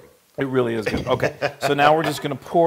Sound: laugh

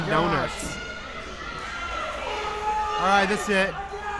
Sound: crowd yelling

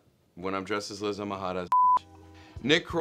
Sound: beep

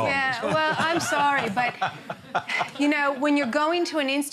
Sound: laughter

